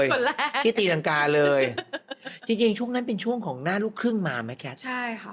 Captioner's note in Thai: เสียงหัวเราะ